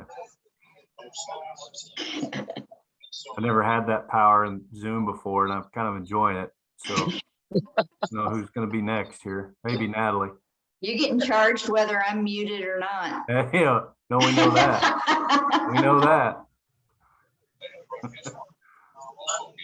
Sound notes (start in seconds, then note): 14.2 laughing